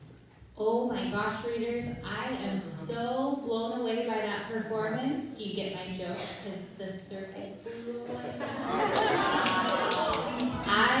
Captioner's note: laughter